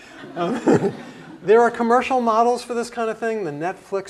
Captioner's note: laugh